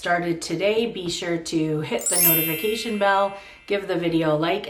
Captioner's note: bell rings